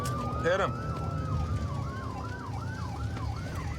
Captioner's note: sirens wailing